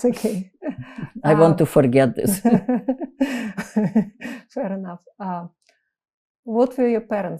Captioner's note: laughing